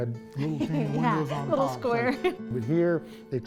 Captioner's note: laughs